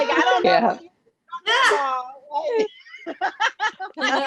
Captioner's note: laughs